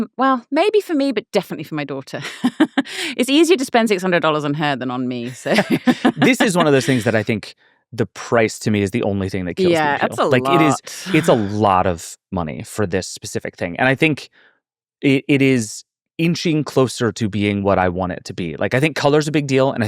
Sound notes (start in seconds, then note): 2.1 laughing; 5.2 laughing